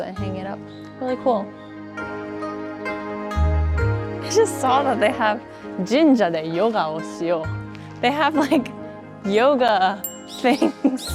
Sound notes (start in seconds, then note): 3.1 gentle music; 5.4 speaks Japanese